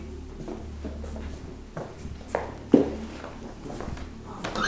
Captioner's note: footsteps